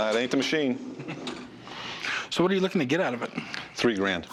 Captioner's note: laughs